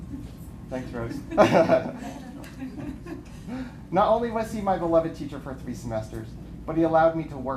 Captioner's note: laughter